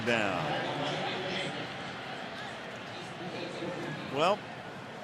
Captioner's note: pa announcement